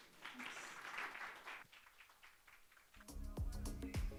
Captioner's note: applause; upbeat music